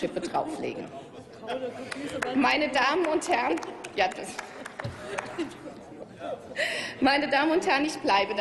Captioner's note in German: Applaus